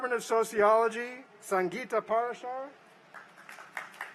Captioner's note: applause